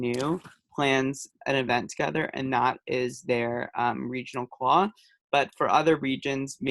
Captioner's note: hebrew